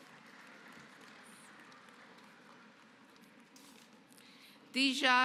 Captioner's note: applause